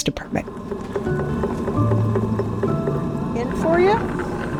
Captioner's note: whirring of pottery wheel